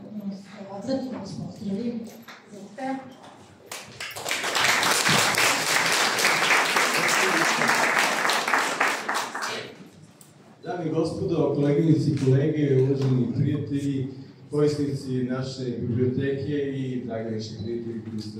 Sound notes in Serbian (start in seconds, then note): 6.5 аплауз